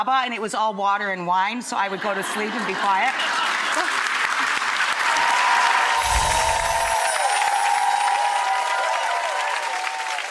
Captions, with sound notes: and it was all water and wine so I would go to sleep and be quiet. (audience cheering)